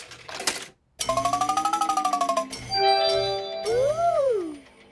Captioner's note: beeps and chimes